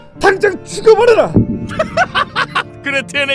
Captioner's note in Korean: 푸하하!